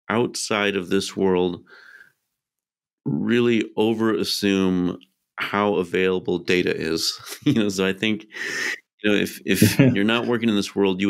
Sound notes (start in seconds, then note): 7.2 chuckles